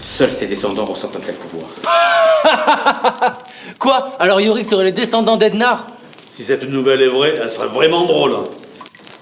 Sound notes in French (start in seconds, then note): 1.8 éclats de rire